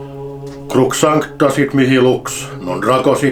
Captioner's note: exorcism in latin